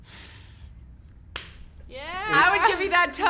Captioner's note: clapping